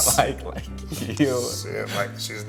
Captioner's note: chuckles